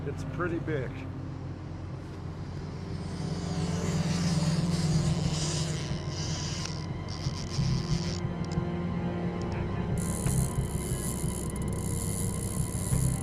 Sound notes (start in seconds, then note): 2.9 suspenseful music; 3.1 fishing reel ticking; 12.6 ticking continues